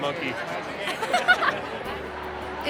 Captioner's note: daughter laughs